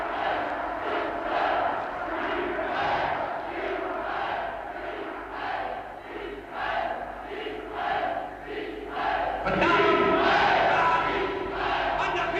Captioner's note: crowds cheering Seig Heil